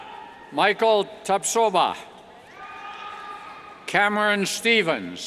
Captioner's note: cheers